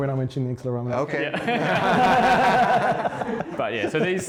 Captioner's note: laughing